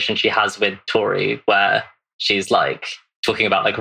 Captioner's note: laughs